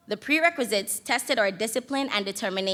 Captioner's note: none